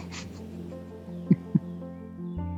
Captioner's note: soft Chucking